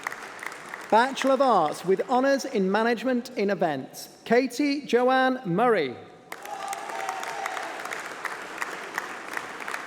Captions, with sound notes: Bachelor of Arts with honours in Management in Events *APPLAUSE*